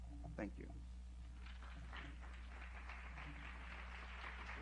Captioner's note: applause